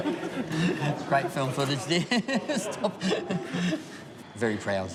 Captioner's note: laughs